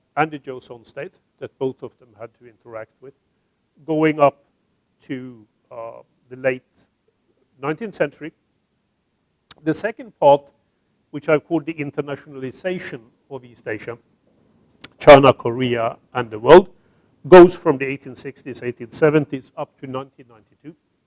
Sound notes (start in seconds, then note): none